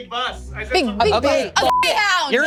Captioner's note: beep